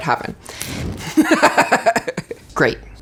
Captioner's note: laughs